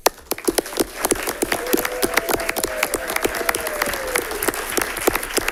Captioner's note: everyone applauding and cheering